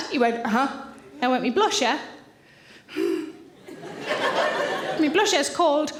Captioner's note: sighs